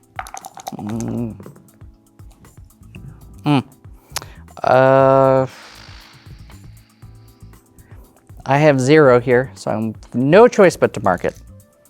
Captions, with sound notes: Mm... (dice rattling) (dice rolling) Mm. Uh... (blows air) I have zero here. So, I'm-- no choice but to mark it.